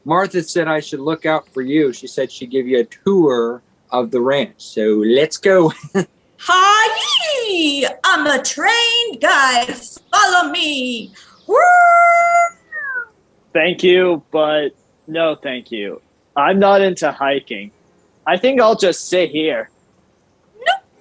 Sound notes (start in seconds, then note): 5.5 laughs; 10.8 howls